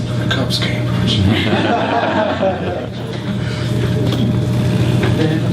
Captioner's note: audience laughs